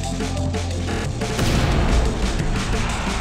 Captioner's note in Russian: бум